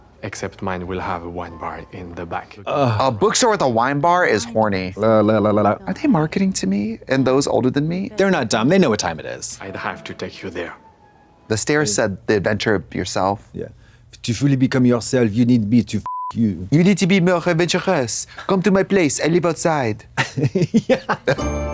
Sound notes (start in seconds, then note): 16.1 beep